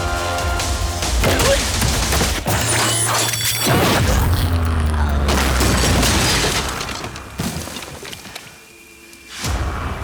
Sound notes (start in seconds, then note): 1.0 grunting; 2.4 metal clanking; 5.4 trash clattering